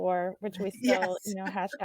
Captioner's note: laughing